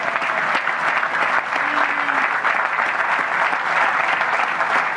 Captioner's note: applause